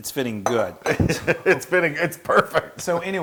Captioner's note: laugh